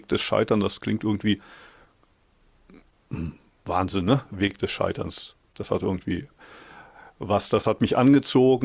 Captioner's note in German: räuspern